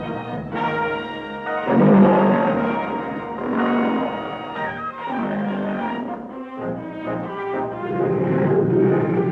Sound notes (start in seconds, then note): 3.5 leopard roaring; 3.5 pleasant orchestral music